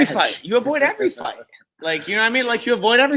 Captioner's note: laughs